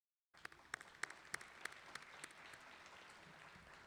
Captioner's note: clapping